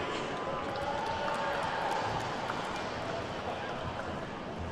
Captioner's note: attendees clapping